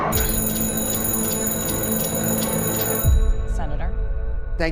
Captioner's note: phone ringing